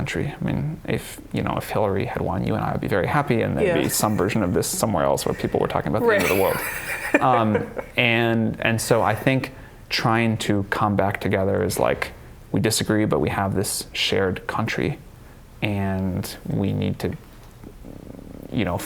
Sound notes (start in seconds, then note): 8.3 laughs